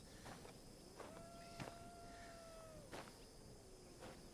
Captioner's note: coyote howls in distance